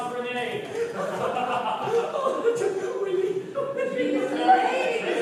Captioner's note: they laugh and joke